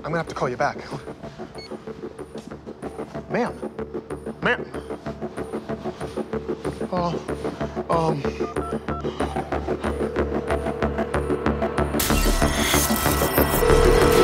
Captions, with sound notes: I'm gonna have to call you back. Ma'am. Ma'am! (intense music) (phone ringing) (suspenseful music)